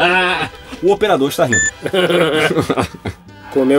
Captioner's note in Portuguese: risos